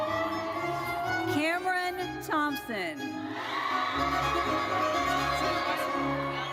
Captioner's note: audience cheers; audience cheers